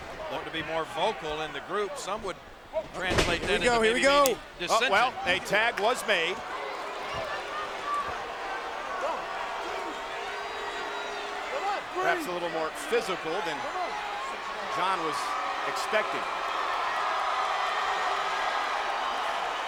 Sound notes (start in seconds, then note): 2.8 body thudding; 3.6 hand thudding; 8.7 crowd clamoring; 16.5 crowd cheering